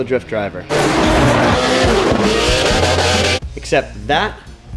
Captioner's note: car engines revving